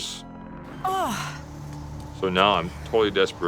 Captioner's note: she groans